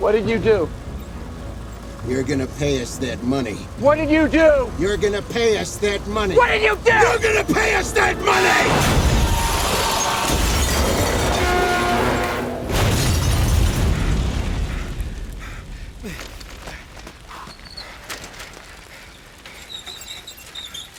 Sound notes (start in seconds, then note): 8.3 glass shattering; 8.5 horn honks; 12.7 glass shatters; 14.6 breathes heavily; 16.9 bicycle squeaking